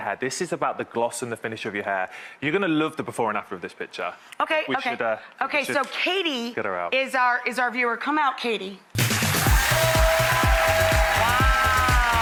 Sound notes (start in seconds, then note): 8.9 upbeat music; 9.0 audience applauds and cheers